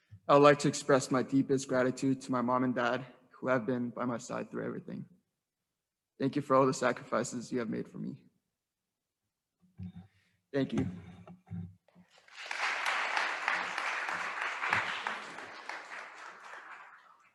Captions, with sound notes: I'd like to express my deepest gratitude to my mom and dad who have been by my side through everything. Thank you for all the sacrifices you have made for me. Thank you. (attendees applauding)